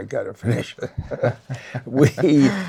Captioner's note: laughs